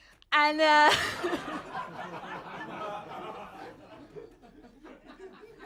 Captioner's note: audience laughing